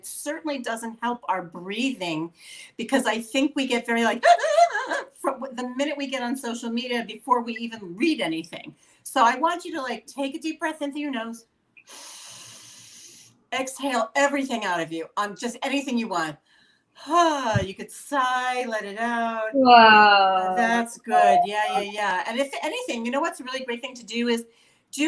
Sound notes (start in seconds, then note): 11.9 inhaling; 19.5 sighing